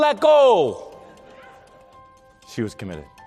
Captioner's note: audience laughter